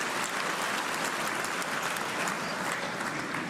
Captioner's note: cheers and applause